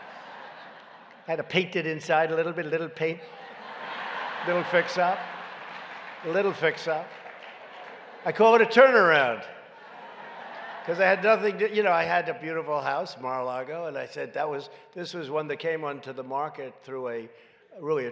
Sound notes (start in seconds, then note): 2.3 laughter and applause; 9.6 laughter